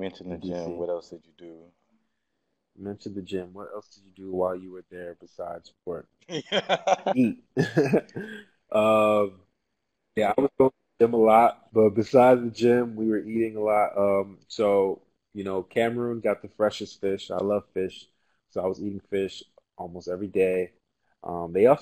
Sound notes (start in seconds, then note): 6.3 laugh